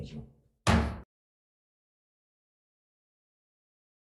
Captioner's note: gavel bangs